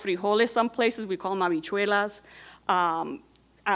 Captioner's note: speaking in Spanish